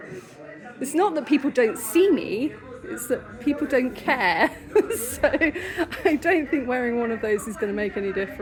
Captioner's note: laughing